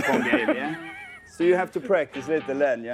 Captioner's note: laughing